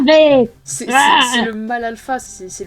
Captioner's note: Mel growls again